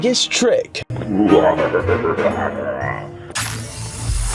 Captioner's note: ghoulish laughter